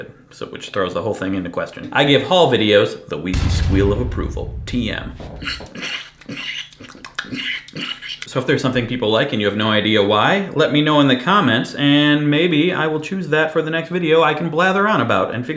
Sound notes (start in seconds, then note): 5.0 imitates pig noises